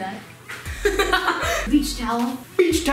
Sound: laughing

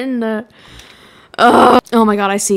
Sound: demon sound

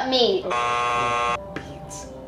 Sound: buzzer buzzing

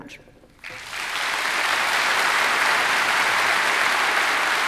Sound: audience clapping

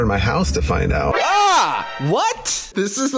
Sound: scary sound effect

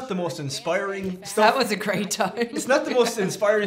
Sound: laughs

